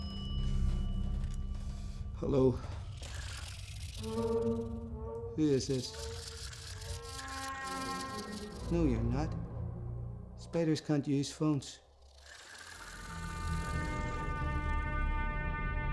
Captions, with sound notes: Hello. (squealing) Who is this? (chittering)